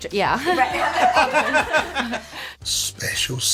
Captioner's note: laughter